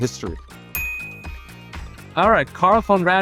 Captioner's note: graphics chimes